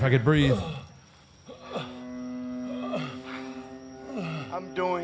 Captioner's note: Undertaker whimpering